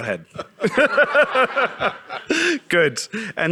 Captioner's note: audience laughing